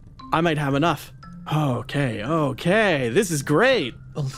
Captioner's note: none